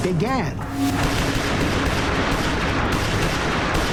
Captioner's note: rapid gunfire